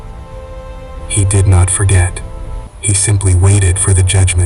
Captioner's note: authoritative whisper